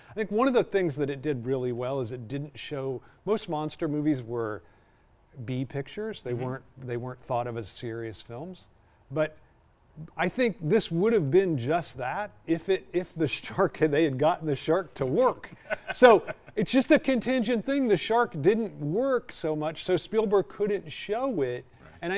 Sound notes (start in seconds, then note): 15.4 laughing